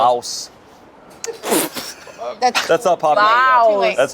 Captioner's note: laughs